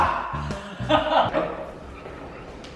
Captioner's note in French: rire